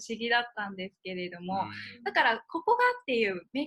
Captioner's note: laughs